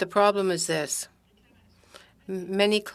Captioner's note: speaking French